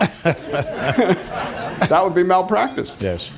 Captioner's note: laughter